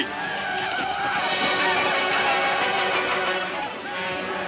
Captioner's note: shouting ecstatically